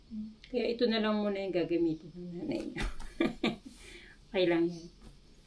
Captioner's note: laughter